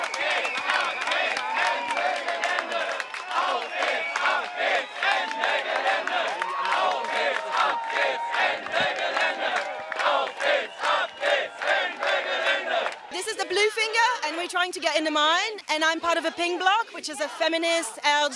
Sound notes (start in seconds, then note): 0.0 applause